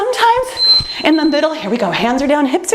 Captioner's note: timer beeps